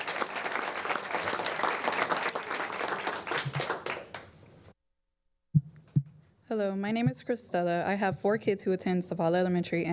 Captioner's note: applause